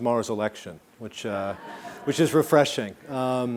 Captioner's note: laughing